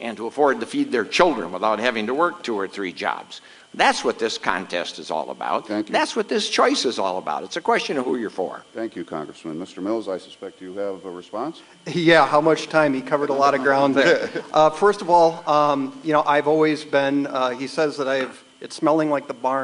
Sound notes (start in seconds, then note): 14.0 off camera laughter